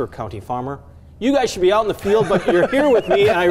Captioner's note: laughing